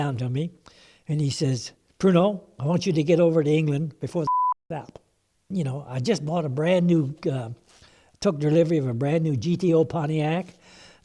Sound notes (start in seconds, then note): 4.2 beep